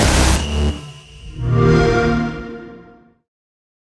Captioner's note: xbox sound